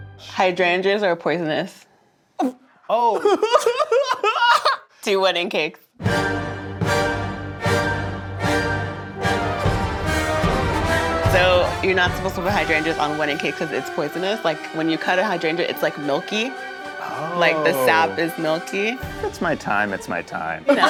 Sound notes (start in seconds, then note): 3.0 laughing; 5.9 dramatic music